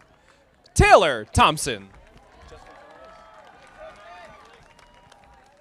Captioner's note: audience applauding